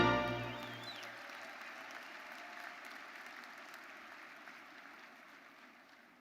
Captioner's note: audience cheering; audience applauding